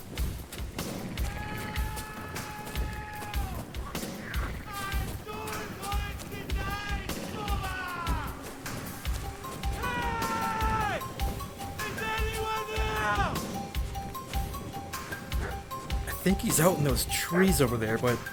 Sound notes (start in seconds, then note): 1.2 man screaming; 5.3 man screaming; 9.7 man screaming